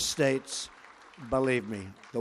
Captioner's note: applause